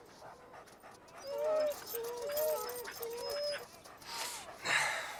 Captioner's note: dogs whining